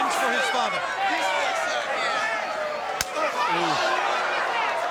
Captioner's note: audience yelling